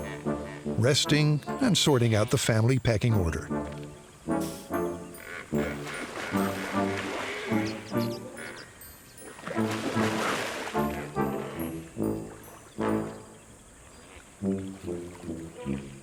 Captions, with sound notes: resting and sorting out the family pecking order. [resonant music] [hippos grunting] [water splashing] [resonant music]